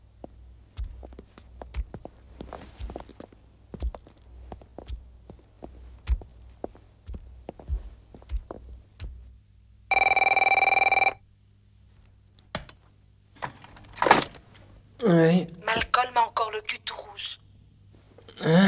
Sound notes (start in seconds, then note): 9.9 phone rings